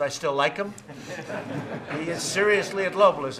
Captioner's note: laughter